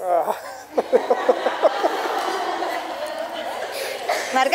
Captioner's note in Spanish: Risas en la sala